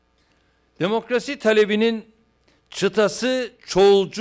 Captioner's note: non-english speech